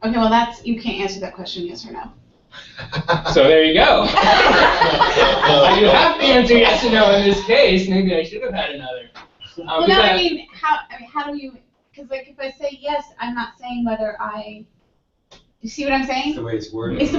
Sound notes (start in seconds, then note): 2.5 laugh